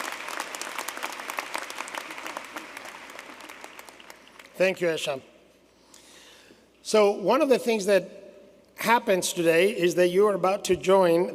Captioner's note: applause